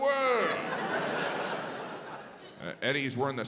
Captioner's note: audience laughs